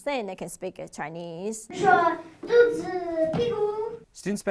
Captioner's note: speaking chinese